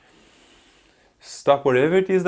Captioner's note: inhales